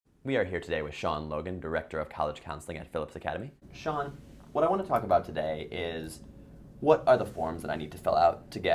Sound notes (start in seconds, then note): 0.3 voiceover